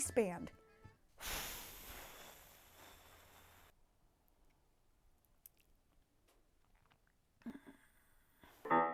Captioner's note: exacerbated sigh